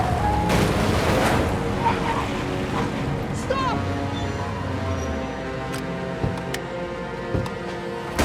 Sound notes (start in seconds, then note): 1.6 tires squeal